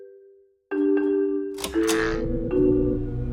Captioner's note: light switch pulled, electricity buzzing